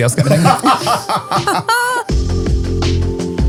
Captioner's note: all laughing; upbeat music